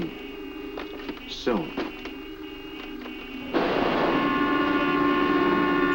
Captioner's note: horns honking